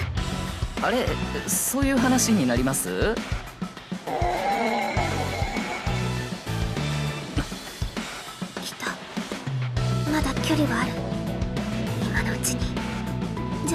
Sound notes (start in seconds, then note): 4.0 demonically Possessed growling